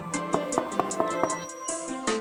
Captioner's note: knocking on the door